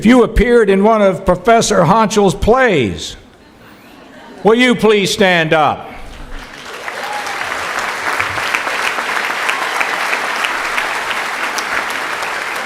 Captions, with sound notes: If you appeared in one of Professor Honchell's plays, will you please stand up. [cheering]